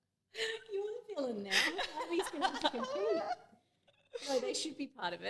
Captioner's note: laughing